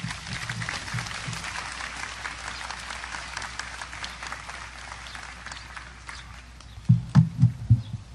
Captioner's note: audience applause